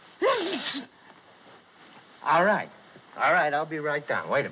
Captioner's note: sneezes